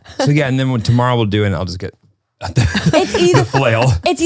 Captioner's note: laughs